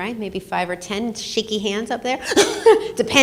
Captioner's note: laughs